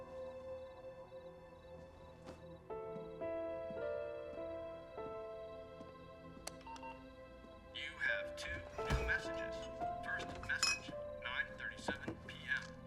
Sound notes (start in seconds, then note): 6.6 answering machine beeps; 8.1 male Electronic Voice